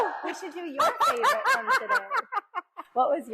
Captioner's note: laughs